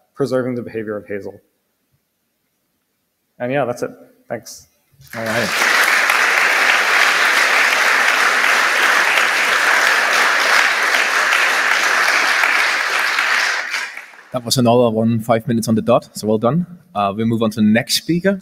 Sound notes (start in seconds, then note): 8.9 applause